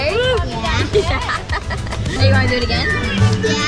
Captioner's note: chuckles